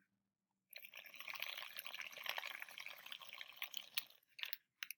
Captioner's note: water gurgling